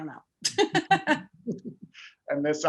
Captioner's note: laughing